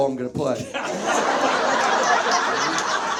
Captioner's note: Zach laughs; audience laughs